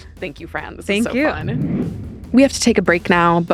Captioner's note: screen whooshing